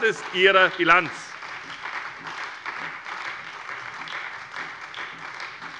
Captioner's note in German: Beifall bei der SPD